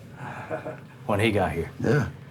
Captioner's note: laughs